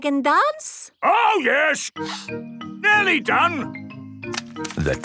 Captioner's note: sniffing